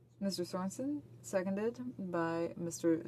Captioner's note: speaking French